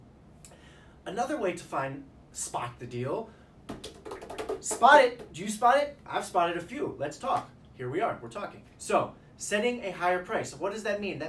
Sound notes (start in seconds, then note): 3.7 drums hands on desk